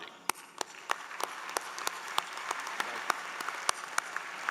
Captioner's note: applause